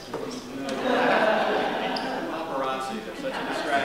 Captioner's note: laughter